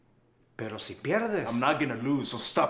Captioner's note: Spanish